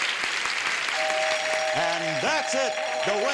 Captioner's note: bell rings